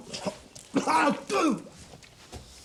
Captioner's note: gags and coughs